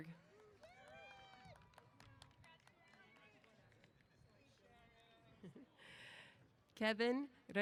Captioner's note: applause & Cheers